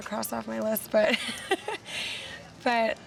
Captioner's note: laughs